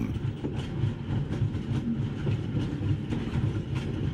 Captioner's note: train engine revving